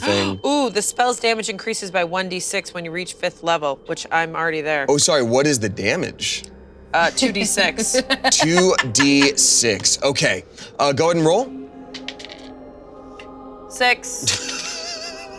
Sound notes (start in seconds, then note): 11.9 dice rolling